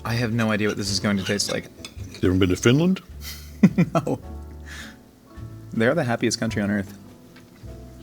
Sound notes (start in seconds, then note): 3.2 laughing; 4.1 smooth jazz music